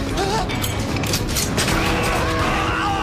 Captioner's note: gunfire